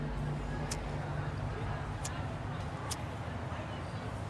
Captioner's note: lighter clicking